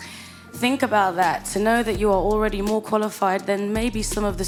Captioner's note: none